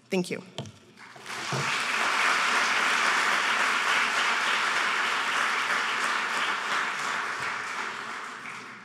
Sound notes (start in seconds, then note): 1.0 applauding